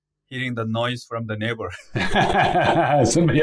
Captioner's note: laughs